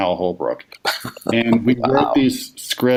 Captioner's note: chuckles